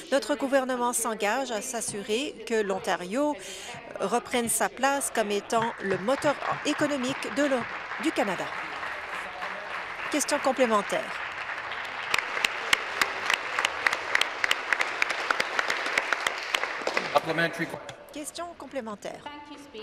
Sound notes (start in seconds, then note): 8.7 applause